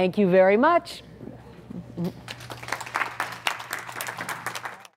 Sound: applause

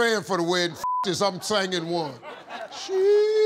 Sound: beep

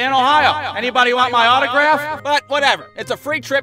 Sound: microphone echo effect

